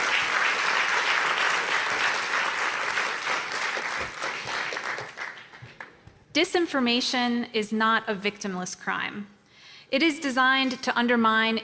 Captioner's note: applause